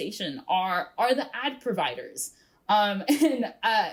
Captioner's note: chuckles